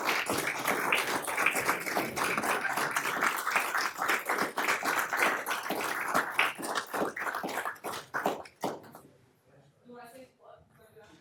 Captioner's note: applause